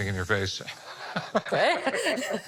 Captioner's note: laughs